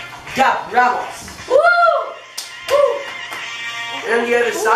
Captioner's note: wooh